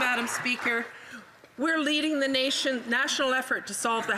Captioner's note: some Applause